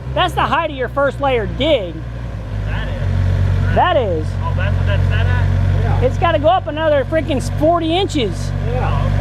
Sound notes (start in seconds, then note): 4.2 men chattering